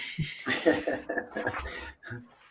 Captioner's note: laughter